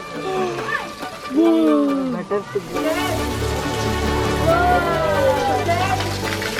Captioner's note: kids exclaim